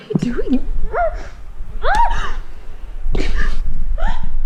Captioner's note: Leona yelps; Leona gasps